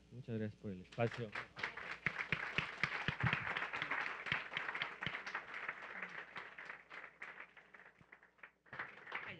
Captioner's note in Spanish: Aplausos